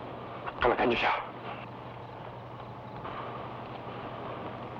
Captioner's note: Magno speaking in Tagalog